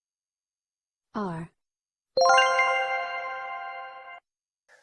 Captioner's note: r, "correct sound"